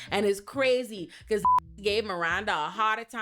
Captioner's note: beep